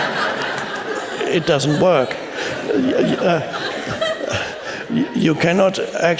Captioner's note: laughter